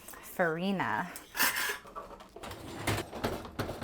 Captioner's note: drawer scrapes; dishwasher rattles